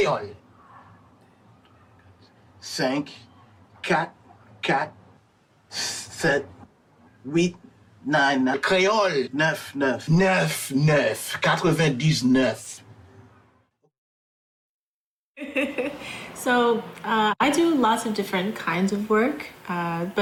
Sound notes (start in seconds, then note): 2.9 speaking in Creole; 9.8 speaking in Creole; 10.6 character speaking in Creole; 15.4 laughing